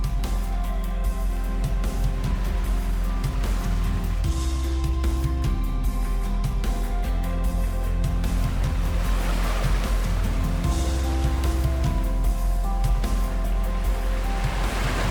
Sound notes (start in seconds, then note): 8.7 water splashing